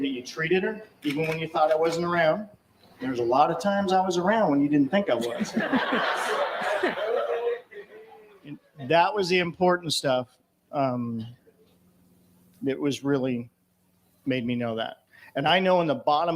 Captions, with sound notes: you treated her. Even when you thought it wasn't around. There's a lot of times I was around when you didn't think I was. (LAUGHTER) That was the important stuff that was really made me know that. And I know in the bottom